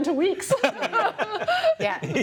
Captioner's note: laughter